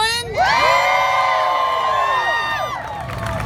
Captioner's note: crowd cheers